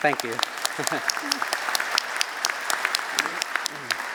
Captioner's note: applause